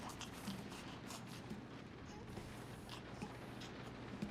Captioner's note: baby cooing